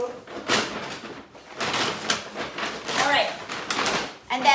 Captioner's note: paper bag crinkling